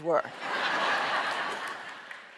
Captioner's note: laughter